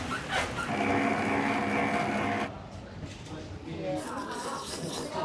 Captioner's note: machine whirring; slurping